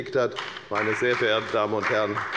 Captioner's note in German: Beifall bei der FDP